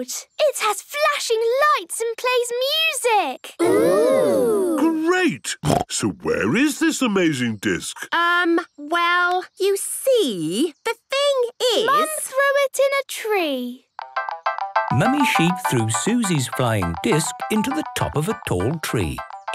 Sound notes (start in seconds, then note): 5.6 snorting